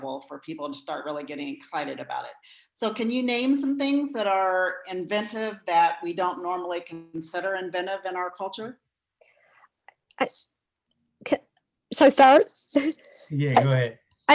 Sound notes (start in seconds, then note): 12.7 chuckles